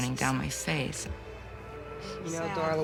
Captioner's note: sobs